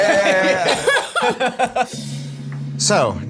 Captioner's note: all laugh